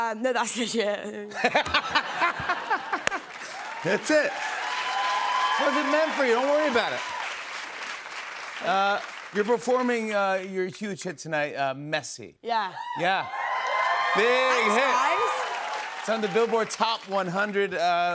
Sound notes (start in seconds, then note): 1.3 laughter; 4.5 cheers and applause; 7.1 applause; 12.8 cheers and applause